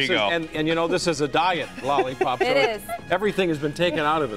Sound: laughter

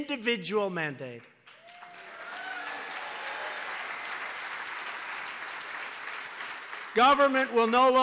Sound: applause

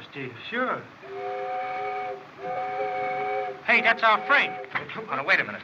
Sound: train Whistle Blows

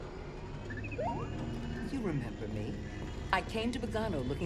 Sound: beep-boop

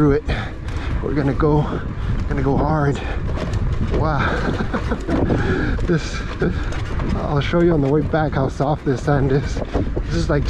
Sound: laughs

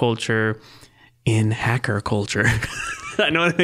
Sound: laughing

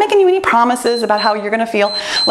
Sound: timer beeps

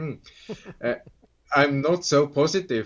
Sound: laughs

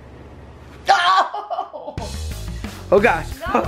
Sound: laughing

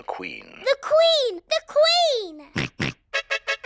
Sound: snorts; trumpet fanfare on tv

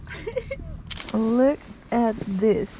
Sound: giggles; camera shutter clicking

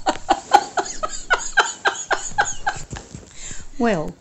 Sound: laughs

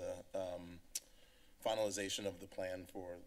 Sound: clicks Tongue

